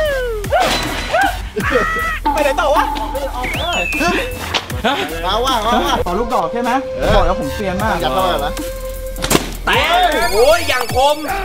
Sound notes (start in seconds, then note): 0.7 panics; 1.0 laughs